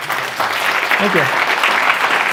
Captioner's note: applause